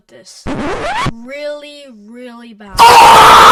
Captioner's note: disc scratch; scream